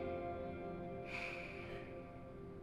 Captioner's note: sigh